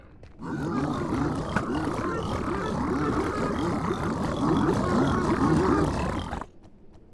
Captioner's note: growling